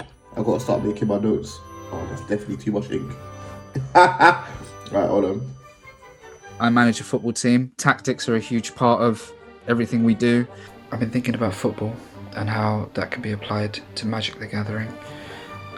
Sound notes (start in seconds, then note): 3.7 laughs